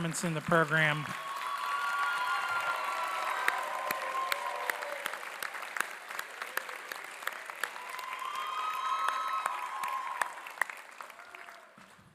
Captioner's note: applause